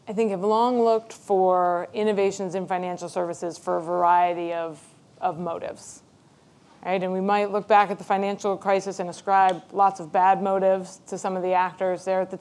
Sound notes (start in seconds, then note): none